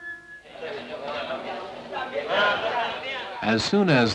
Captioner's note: eerie music; mine worker chatter